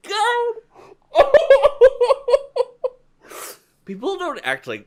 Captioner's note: laugh-sobbing